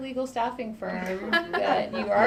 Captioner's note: laughter